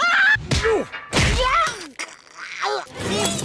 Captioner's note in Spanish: ruidos de asfixia